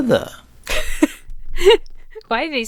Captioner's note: Emma laughs